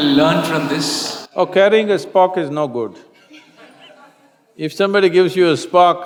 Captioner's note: few laugh